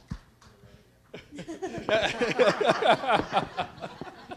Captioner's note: laughter